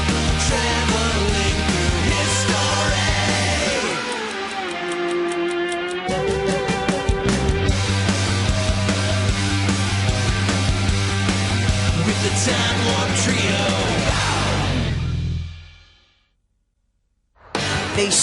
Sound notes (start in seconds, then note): 3.9 ticking; 7.4 energetic rock music